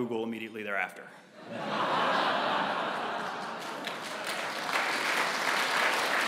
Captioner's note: laugh; applause